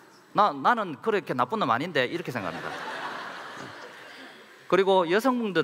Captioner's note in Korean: 웃음